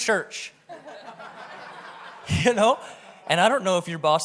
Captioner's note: audience laughs